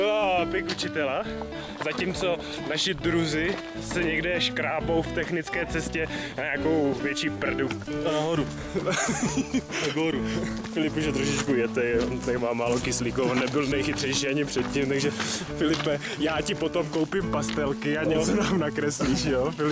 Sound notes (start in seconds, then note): 8.0 Russian accent